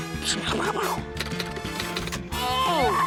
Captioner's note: imitates gunfire; keys clack